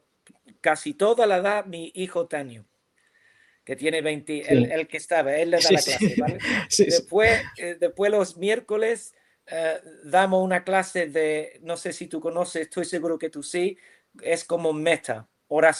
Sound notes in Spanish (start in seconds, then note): 5.6 risas